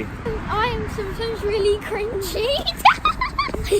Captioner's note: laughs